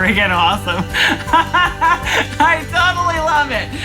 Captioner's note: laughing